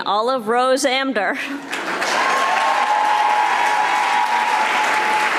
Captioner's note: audience applauding